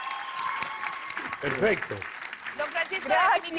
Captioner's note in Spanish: Aplausos